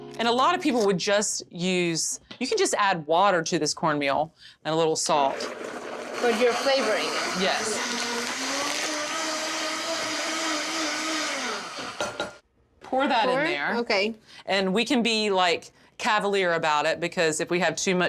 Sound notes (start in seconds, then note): 9.7 blender whirs